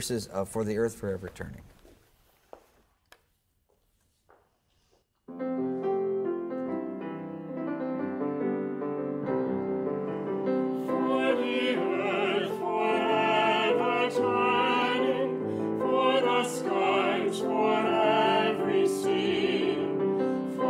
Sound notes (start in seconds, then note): 1.2 footsteps tapping; 5.6 gentle piano music